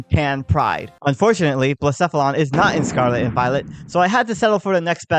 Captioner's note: explosion sfx